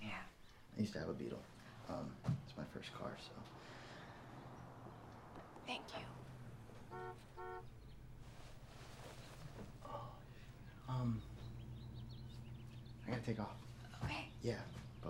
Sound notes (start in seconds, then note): 6.4 car horn honking